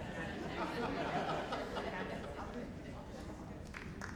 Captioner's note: crowd laughing